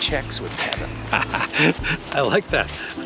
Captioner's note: laughs